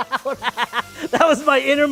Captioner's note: laughs